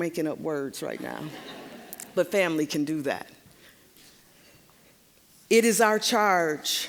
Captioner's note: audience laughing